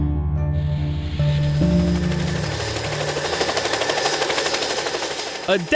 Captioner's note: pensive music; helicopter rotor